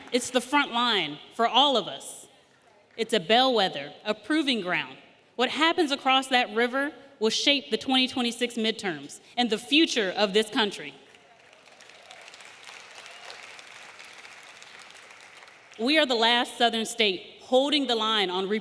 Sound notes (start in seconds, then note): 11.1 audience applauding